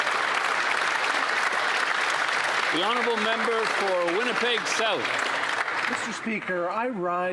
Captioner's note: some Applause